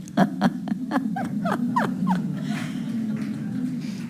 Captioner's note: laughing